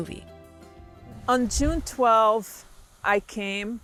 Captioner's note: whooshing